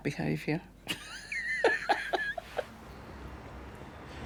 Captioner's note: laughing